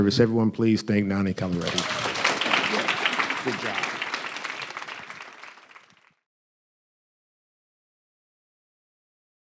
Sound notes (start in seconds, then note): 1.4 audience applauding